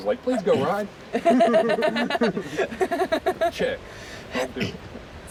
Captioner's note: laughter